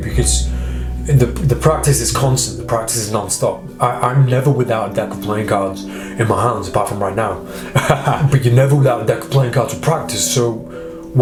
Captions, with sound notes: because the practise is constant, the practise is no-stop. I'm never without a deck of playing cards in my hands, but from right now. (laughing) But you never got that playing cards to practise so,